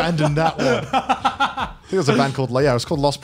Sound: laughs

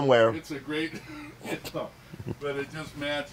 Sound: chuckles

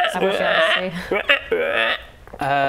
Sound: ribbet

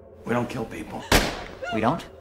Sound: gunshot

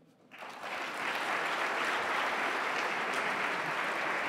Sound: audience applauding

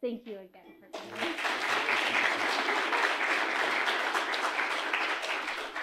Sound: audience applauding

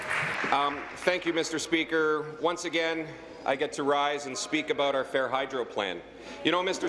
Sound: applause

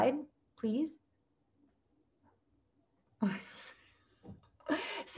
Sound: laughter

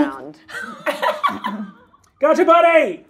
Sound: laughs

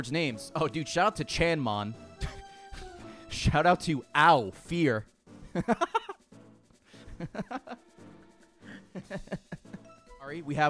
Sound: laughs

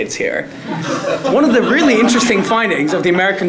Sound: laugh

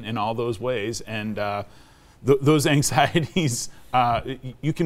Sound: chuckling

